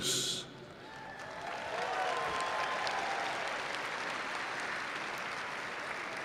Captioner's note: audience cheering and applauding